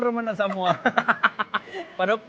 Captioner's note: laughs